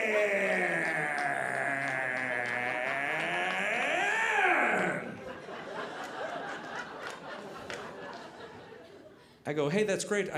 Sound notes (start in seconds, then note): 5.2 audience laughing